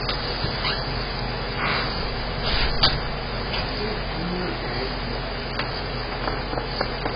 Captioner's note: door closes and locks